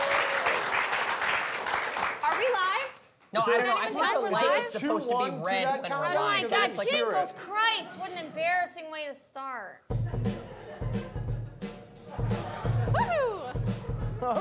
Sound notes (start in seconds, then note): 3.7 overlapping chatter; 9.9 upbeat music